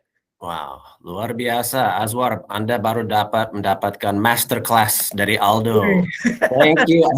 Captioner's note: non-english speech